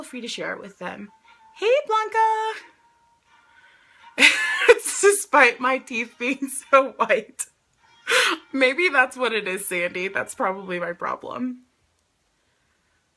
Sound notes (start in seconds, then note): 4.2 laughs